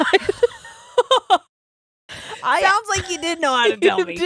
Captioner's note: laughing